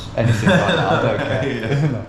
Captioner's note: laughs